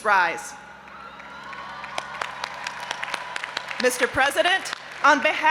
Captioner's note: audience applauding and cheering